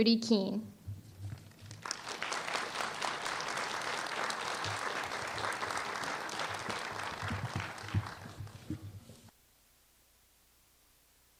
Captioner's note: applause